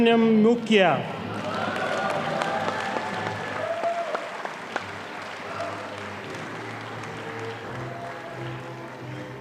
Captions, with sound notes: - Valasubraminan Gukiar. (audience applauding)